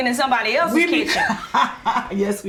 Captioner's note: Neema laughs